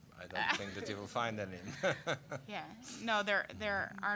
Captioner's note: all laughing